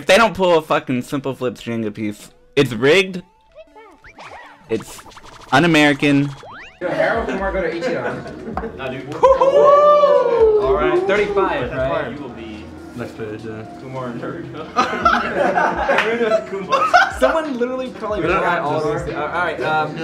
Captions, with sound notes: If they don't pull a fucking simpleflips string a piece, it's rigged It's un-American (Random chatter)